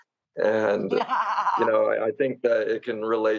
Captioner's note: laughs